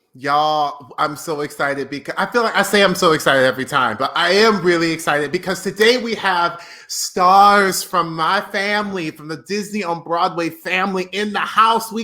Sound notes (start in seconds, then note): none